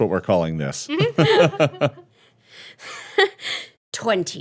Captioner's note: laughing